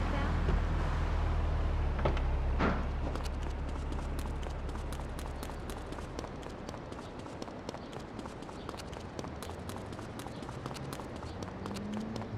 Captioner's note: sirens wailing